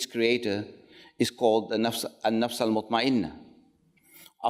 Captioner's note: speaks Arabic